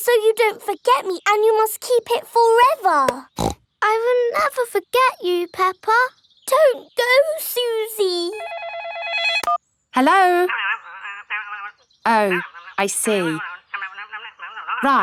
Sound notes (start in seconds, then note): 3.2 snorts; 8.4 phone ringing